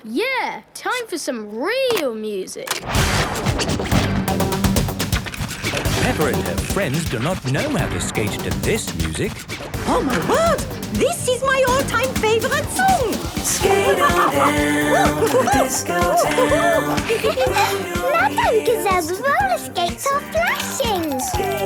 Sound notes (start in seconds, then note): 3.5 heavy dance music; 13.5 laughing and exclaiming